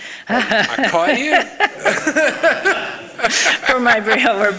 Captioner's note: both laughing